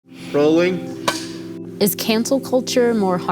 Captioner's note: clapper clicks